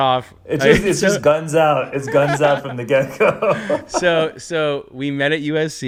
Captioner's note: laughs